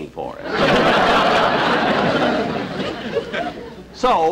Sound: audience Laughing

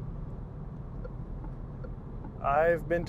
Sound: turn signal clicking

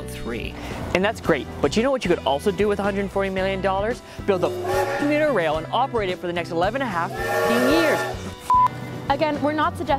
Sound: honking; hoooonk

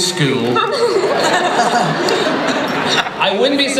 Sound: laughter

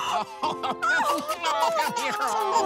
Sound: laughter

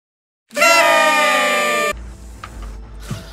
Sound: party Horn

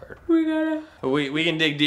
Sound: yawning

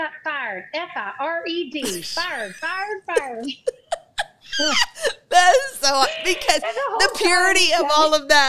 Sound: laughs

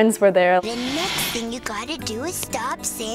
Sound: white noise

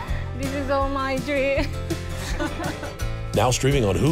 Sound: laughing

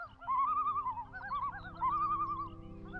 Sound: birds chirping

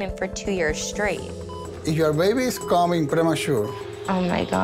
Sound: machine beeping

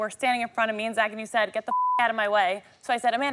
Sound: beep

